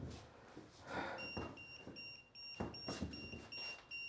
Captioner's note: EMF meter beeping